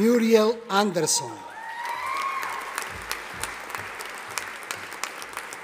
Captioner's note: audience applauding